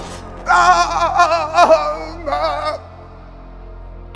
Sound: pained moaning

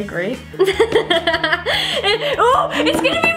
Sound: laughs

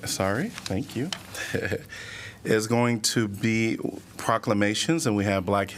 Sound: laughter

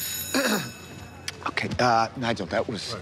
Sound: clearing throat

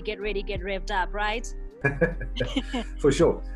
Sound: laughs

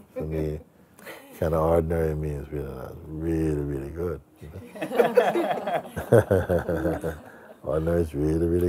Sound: Lachen

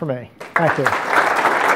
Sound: audience clapping

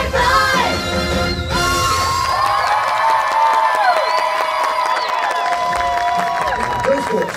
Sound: crowd Cheering

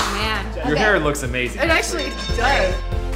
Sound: boxing bell rings

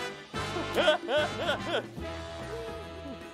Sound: laughs

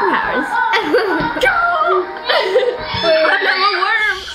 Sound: yelling

